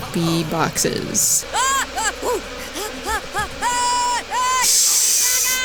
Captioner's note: sped-up, high-pitched, rhythmic yelling; exhaling in laughter